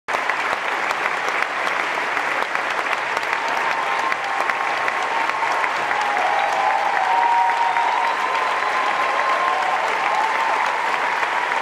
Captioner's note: vigorous cheers and applause